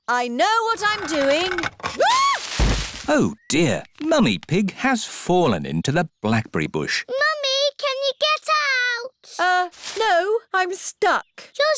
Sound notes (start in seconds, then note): 2.0 screams; 2.4 thuds